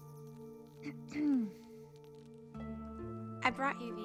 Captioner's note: lee clears throat